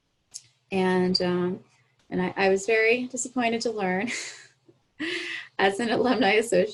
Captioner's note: chuckles